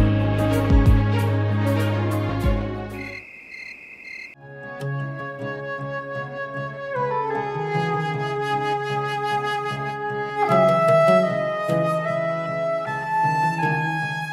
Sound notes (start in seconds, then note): 2.9 crickets chirping